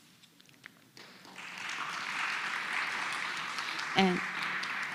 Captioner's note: applause